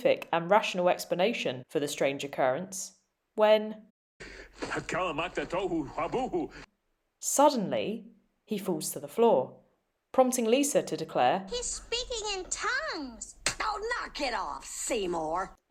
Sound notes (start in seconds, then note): 4.0 Skinner speaks in tongues